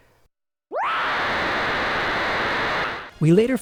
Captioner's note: scary 8-bit scream